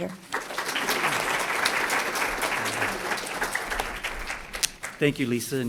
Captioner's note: applause